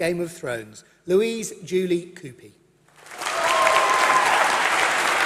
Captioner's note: applause